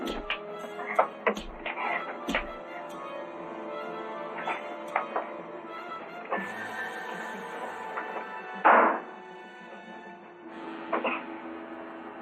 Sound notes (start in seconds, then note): 1.3 punches and gasps; 8.5 gunshot